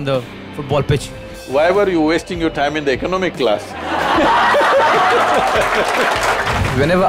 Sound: laughter/Applause

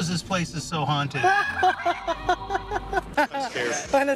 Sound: laughs

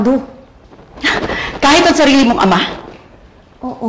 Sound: scoffs

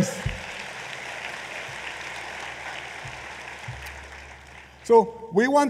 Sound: applause

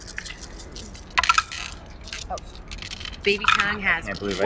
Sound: dice rattle

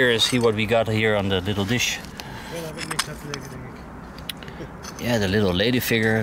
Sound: group members chattering

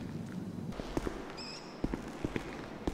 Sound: footsteps; bird chirp

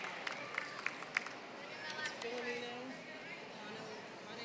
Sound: applause

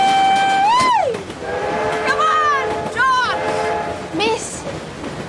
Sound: train whistle blows

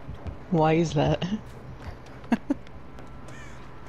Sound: giggles

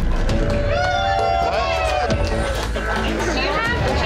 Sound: all cheering

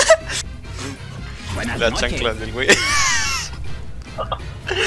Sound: nasal laughing

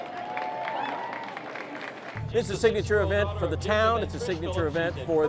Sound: applause

